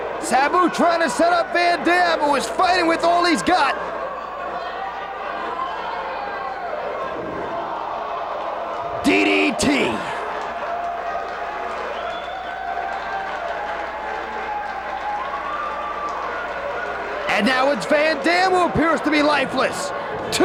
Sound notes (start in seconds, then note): 4.9 spectators cheering; 7.6 spectators exclaiming; 10.1 spectators cheering and applauding